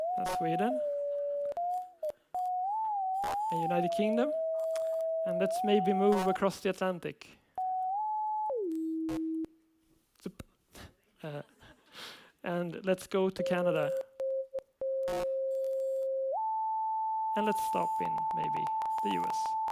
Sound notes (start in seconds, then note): 2.9 beep keeps going up; 7.6 beep goes from high to low; 17.1 beep going up; 19.5 very high beep